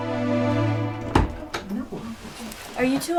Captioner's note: bangs